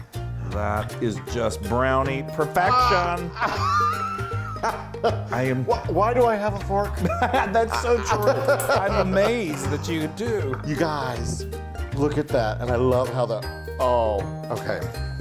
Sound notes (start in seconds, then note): 2.6 laughing